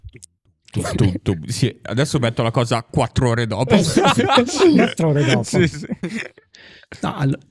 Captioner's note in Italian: laughter